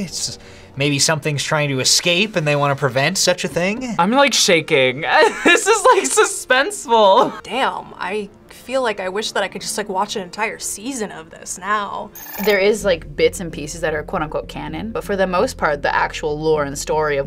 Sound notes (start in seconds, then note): 5.4 laughs